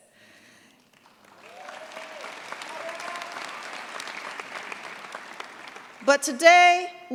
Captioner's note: cheers, applause